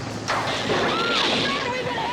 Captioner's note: electricity buzzing; girls screaming